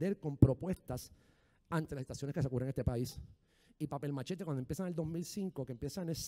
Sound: speaking in foreign language

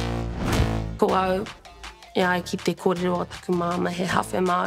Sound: speaks Te Reo Māori

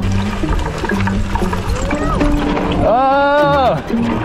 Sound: tires rumbling

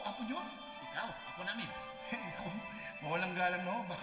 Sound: chuckles

